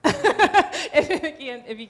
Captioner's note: laughing